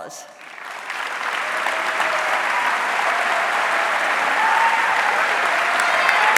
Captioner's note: audience cheering and applauding